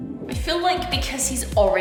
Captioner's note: none